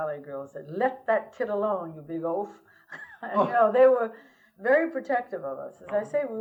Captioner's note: laughter